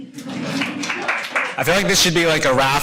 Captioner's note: audience applauding